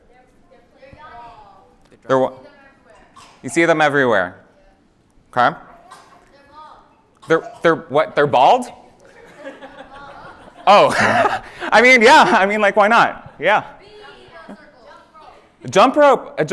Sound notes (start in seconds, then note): 9.0 laughter